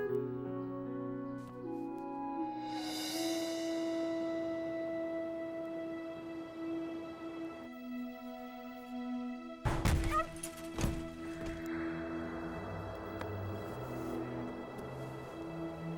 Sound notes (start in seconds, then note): 9.6 objects banging; 10.0 animal whimpering; 12.2 suspenseful music